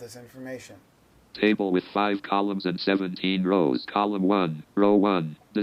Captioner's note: computerized Voice